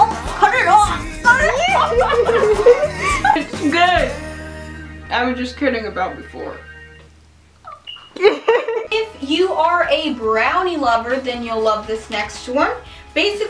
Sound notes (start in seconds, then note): 0.0 laughing; 7.6 giggles